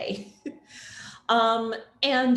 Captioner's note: chuckles